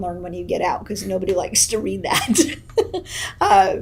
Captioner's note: laughs